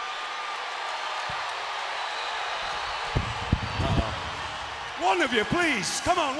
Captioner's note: crowd cheering